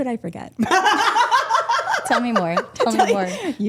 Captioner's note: group laughing